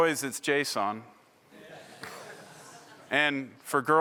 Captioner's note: laughter